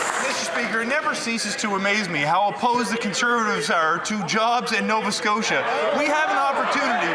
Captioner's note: some Applause